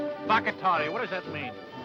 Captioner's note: speaking foreign language